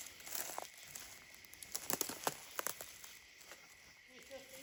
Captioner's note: branches snapping